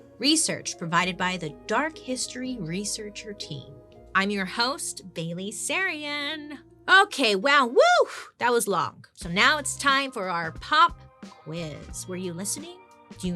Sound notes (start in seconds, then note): 7.6 exclaiming; 8.0 exhaling